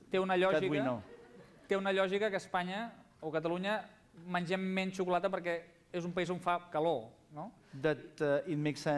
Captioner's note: non-english speech